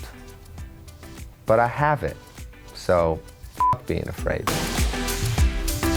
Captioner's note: beep; upbeat music